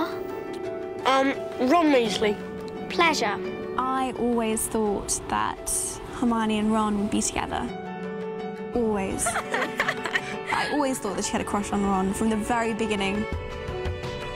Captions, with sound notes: -I'm Ron Weasley. -Pleasure. I always thought that Hermione and Ron would be together. Always. [LAUGHING] I always thought that she had a crush on Ron, from the very beginning.